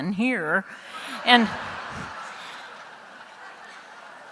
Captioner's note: laughter